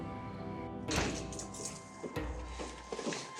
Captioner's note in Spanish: ruido al entrar